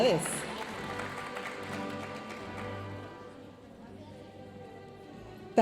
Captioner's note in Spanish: aplausos de la audiencia